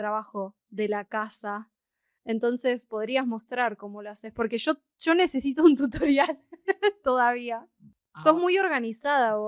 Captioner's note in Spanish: risas